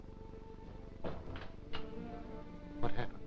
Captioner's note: soft somber music; door thudding